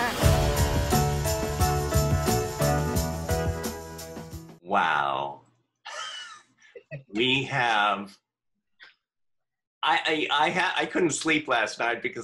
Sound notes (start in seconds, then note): 0.0 bright music; 5.9 laughing